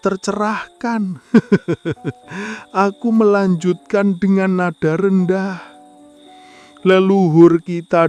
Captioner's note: laughs